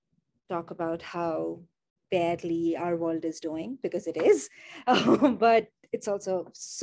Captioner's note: laughs